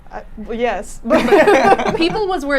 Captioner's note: laughing